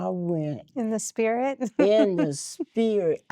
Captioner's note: giggling